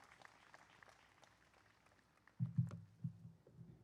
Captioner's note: applause